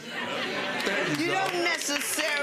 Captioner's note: audience laughs